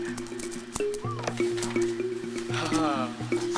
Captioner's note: surprised whistle